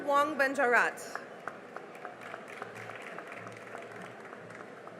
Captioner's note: cheering and applause